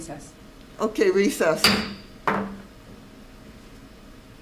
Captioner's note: gavel bangs